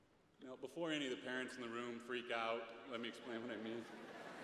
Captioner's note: laughter